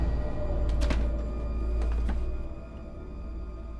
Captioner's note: dark eerie music; door clicks